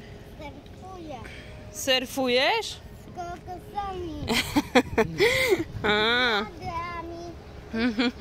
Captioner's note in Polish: śmiech